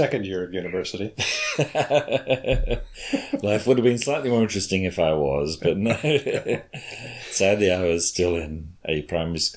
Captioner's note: laughs